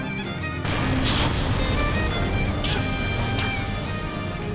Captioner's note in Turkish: Patlama Sesi